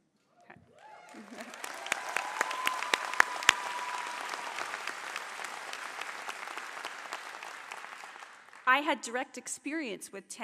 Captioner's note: applause